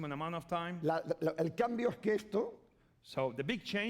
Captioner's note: speaking spanish